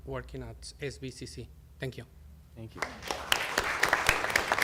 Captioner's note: applause